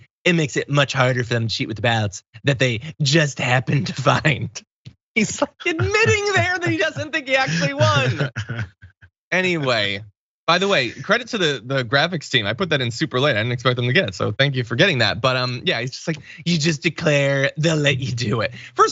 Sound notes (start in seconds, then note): 5.3 laugh